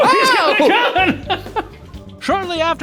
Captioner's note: laughs